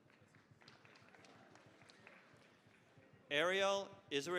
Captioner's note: applause